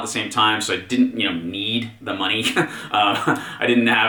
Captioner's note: laughs